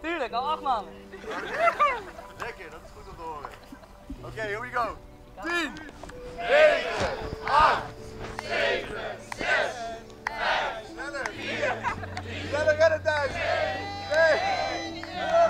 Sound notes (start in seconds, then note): 6.3 crowd starts countdown